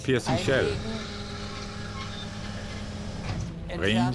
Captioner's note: turret whirring